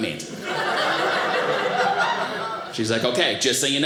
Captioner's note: audience laughing